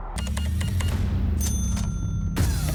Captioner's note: beeps; register dings